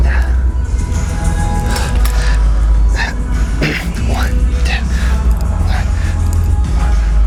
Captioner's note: grunting